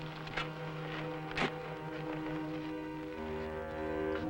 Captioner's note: soil crunching